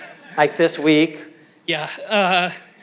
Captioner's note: audience laughing